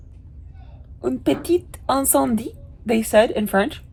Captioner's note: speaker speaking in foreign language